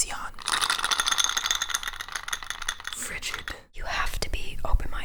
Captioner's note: clinking in glass